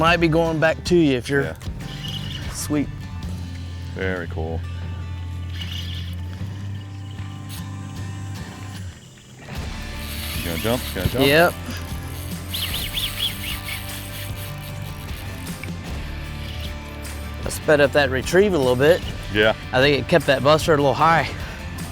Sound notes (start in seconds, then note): 5.7 fishing rod reels; 12.9 fishing rod reels